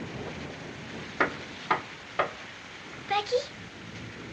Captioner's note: Knocking